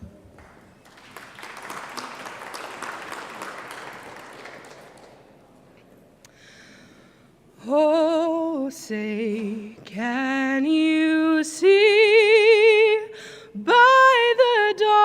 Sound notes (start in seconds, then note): 0.3 clapping